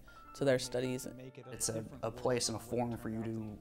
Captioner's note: voiceover